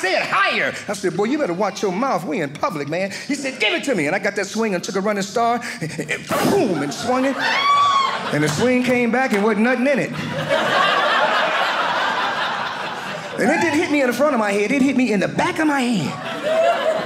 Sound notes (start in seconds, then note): 10.0 audience laughing